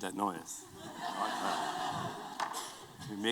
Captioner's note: laughter